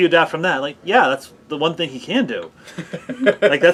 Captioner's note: laughing